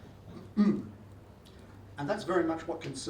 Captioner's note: clears throat